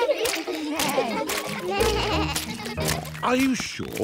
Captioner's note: bleating